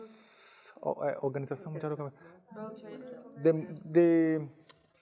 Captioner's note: speaking in a foreign language